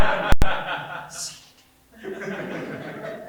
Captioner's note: whispers